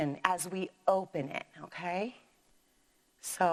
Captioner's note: none